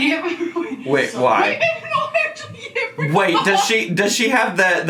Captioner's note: laughing and yelling